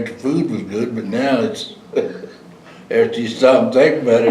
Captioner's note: laughter